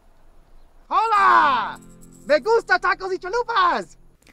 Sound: speaking Spanish

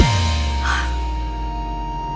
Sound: chuckles

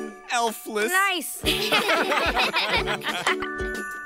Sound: all laugh

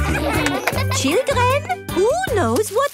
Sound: claps

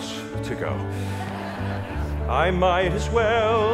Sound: audience laughing

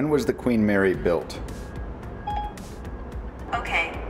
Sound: beeps

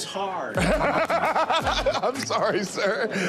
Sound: laughter

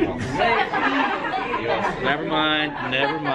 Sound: students laughing

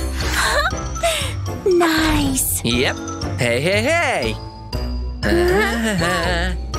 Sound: making happy sounds

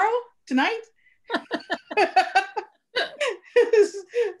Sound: laughing

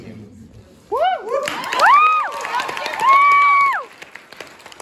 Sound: applause

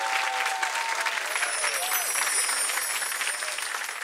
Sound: tinkling

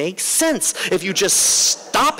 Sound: laughter

